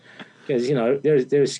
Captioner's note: interviewer laughing